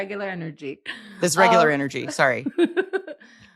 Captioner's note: laughs